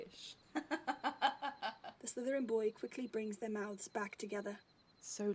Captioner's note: Regulus scoffs; James laughs